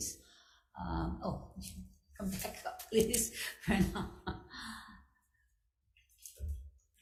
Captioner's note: laughs